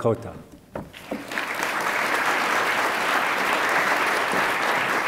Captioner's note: attendees applaud